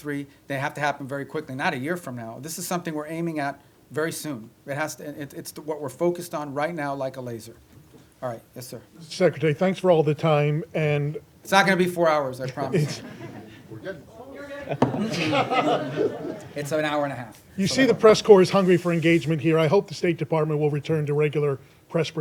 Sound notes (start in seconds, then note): 14.4 laughter